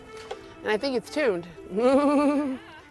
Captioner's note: chuckles